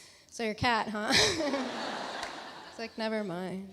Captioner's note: Alexis laughs; audience laughs